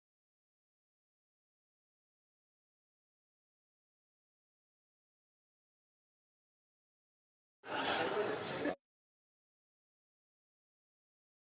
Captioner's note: speaking French